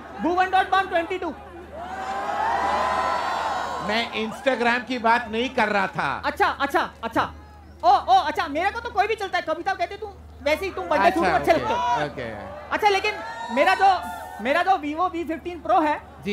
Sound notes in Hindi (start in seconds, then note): 1.6 चियरिंग